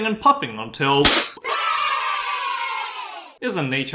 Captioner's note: pop, cheers